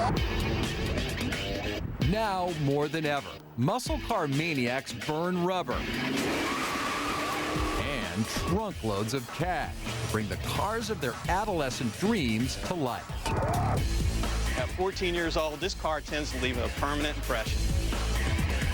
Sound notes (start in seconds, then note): 5.6 tires screech